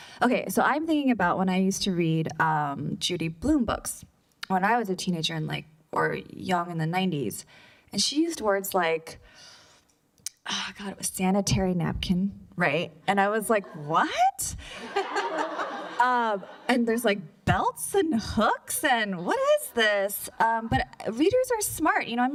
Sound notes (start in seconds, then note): 14.6 laughter